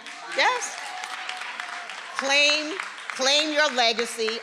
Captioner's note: attendees applauding